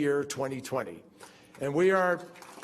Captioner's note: applause